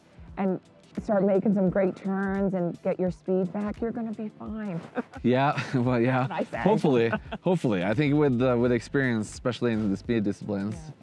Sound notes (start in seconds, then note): 4.7 chuckles